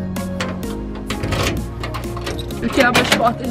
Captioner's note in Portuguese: som de fechadura